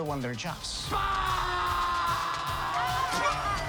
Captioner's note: screams